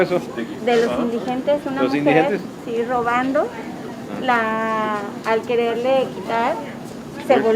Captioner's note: in Spanish